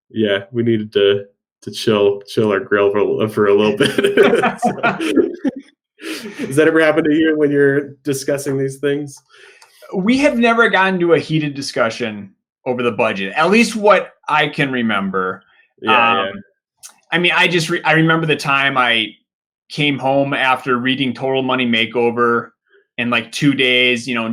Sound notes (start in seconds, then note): 3.7 both laughing